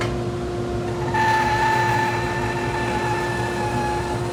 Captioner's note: saw whirring